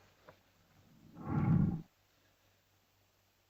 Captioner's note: lizard growls